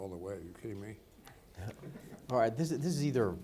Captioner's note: people laughing